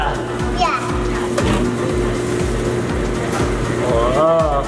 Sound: machine whirs

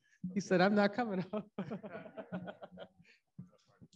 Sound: laughs

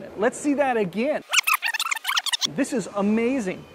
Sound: high pitched rewinding

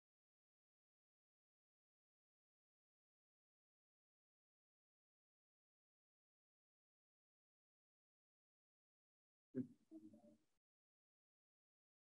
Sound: silence

